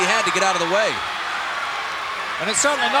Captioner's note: audience cheering